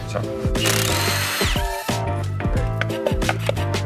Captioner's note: tool whirs